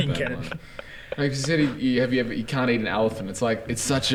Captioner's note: giggles